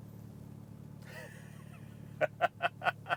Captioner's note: wheeze Laughs